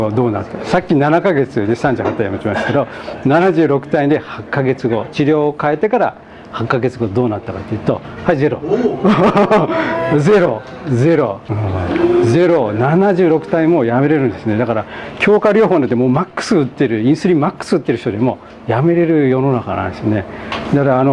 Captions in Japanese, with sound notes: これは、8か月後はどうなって、さっき7か月で38単位は落ちますけど、 76単位で8か月後、治療を変えてから8か月後はどうなったかっていうと、はい、ゼロ（笑い）。 76単位もやめれるんです。 だから、強化療法でも、マックス打ってる、インスリンをマックス打ってる人よりも、やめれる世の中なんです。